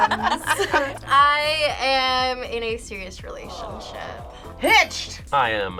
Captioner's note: crowd